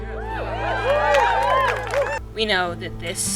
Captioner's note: crowd cheering